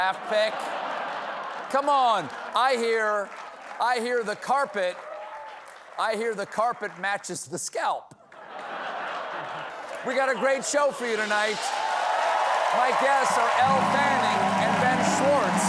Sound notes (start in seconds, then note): 8.2 laughter